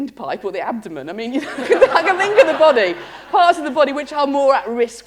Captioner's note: laughter